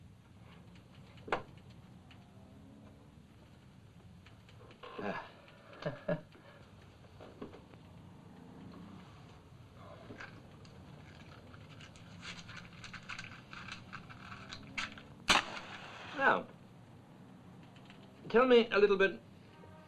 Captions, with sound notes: (click) (chuckling) (match hissing) - Now... tell me a little bit...